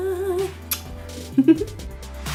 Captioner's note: chuckles; upbeat electronic music